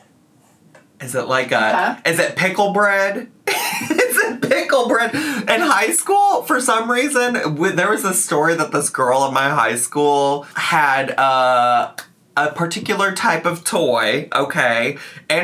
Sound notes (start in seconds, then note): 3.5 laughs